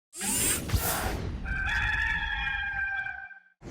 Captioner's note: whirring